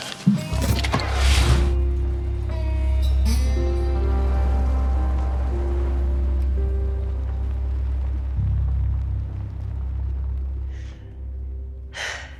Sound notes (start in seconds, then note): 0.8 engine starts